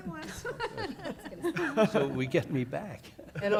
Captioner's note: laughter